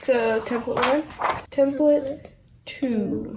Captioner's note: papers rustling